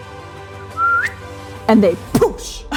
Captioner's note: whistling